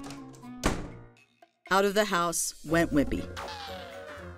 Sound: door closes

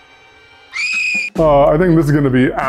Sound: child screaming

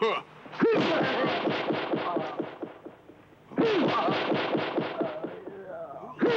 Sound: blasting; men groaning

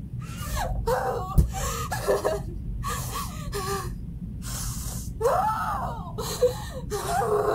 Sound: continues crying angrily

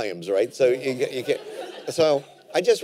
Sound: laughter

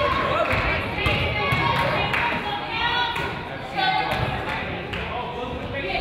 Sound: claps; claps

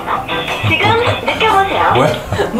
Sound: confused

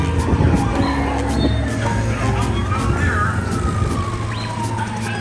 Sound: mysterious music; sirens blaring

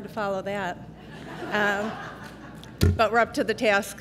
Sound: laughter

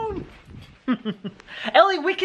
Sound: laughs

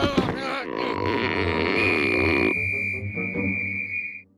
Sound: whistle blows, echoes

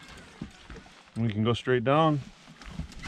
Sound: whiirring

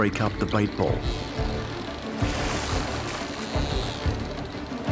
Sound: dolphins clicking

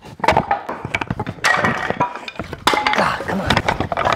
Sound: wood clattering

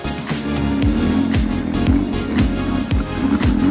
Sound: car roars; upbeat music continues

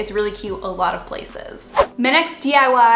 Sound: whoosh

